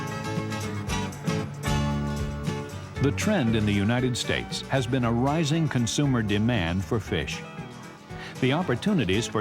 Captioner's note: voiceover